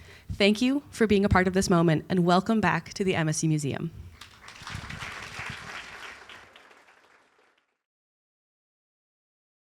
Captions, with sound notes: Thank you for being a part of this moment and welcome back to the MSU Museum. [APPLAUSE]